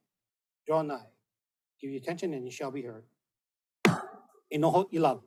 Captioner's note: gavel bangs once